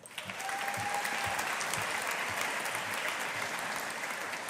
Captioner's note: audience applauding